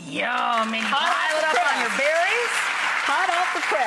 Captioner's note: cheering and clapping